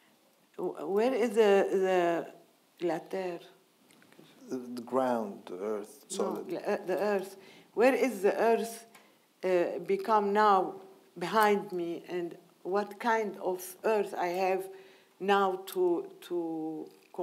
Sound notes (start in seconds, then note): 2.3 speaking in foreign language